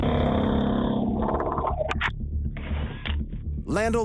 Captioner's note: whirring